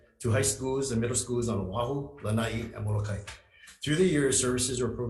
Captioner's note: speaking in foreign language